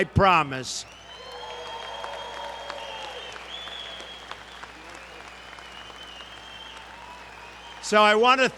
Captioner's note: applause